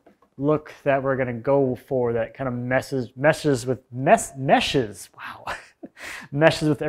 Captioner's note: laughs